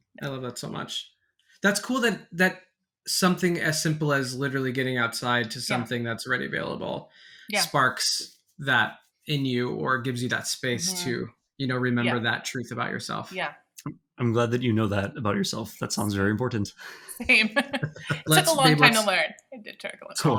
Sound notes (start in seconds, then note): 17.5 people laughing